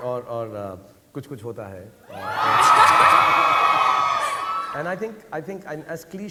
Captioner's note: audience cheering